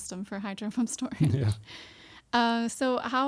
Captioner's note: chuckles